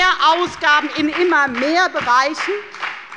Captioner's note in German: Beifall bei der FDP